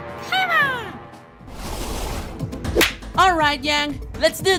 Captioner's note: clap; splash